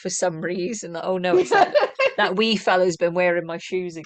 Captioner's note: laughter